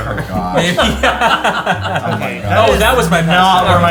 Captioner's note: laughing